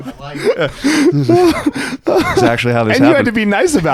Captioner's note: laughing